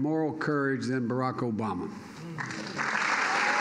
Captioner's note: applause